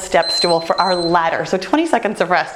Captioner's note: timer beeping